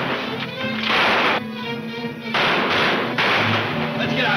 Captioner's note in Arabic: البنادق تطلق النار بشكل عدواني